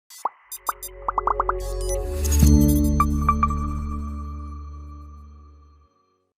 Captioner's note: bright music; bubbles pop and beep